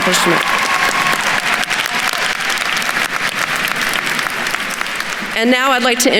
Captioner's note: attendees cheering and applauding